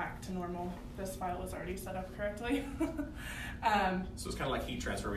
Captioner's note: laughs